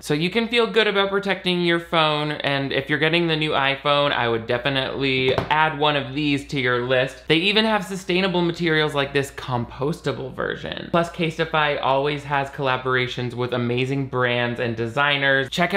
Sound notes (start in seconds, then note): none